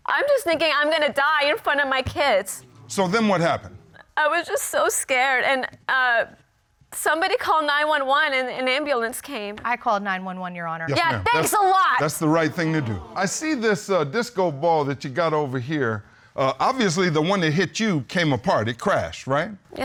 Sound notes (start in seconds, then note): 11.0 sarcastically